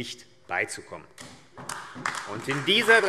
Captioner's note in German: Beifall AfD